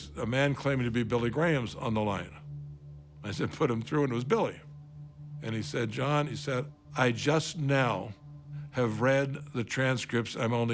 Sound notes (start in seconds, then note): none